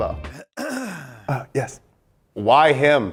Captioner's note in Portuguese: homem limpa a garganta